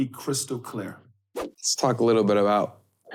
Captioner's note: air whooshing